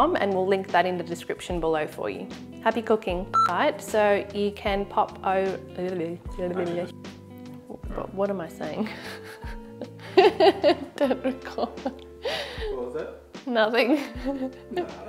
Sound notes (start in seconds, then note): 3.3 buzzer; 9.8 laughs; 14.4 laughs